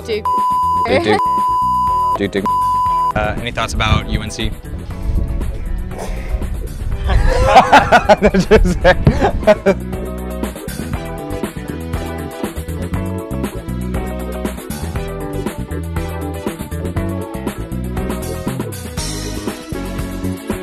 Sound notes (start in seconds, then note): 7.0 laughter; 10.2 upbeat music